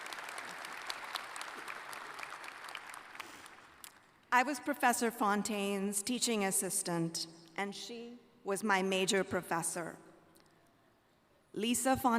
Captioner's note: applause